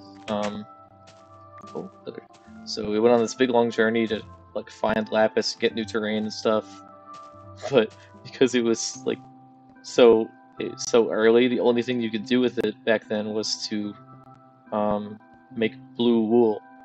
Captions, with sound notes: Oh, leather. So, we went on this big long journey to like, find lapis, get new terrain and stuff. *laughs* But, 'cause it was like, so- so early, the only thing you could do with it back then was to make blue wool.